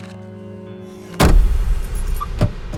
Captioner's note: bang